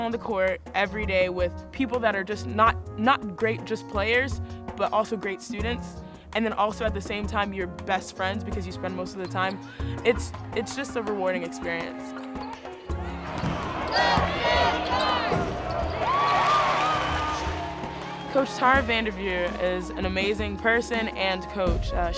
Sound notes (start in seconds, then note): 11.8 shoes squeak; 12.0 people shout and cheer; 13.2 basketball thumps